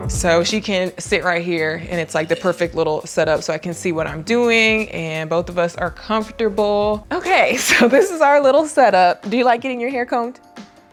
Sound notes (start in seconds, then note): 7.4 laughing